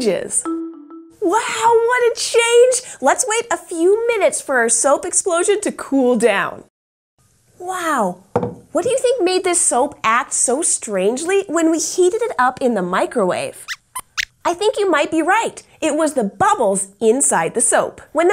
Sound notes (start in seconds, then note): 13.6 squeaks squeaks